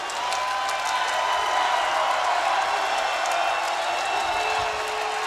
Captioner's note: crowd cheers and claps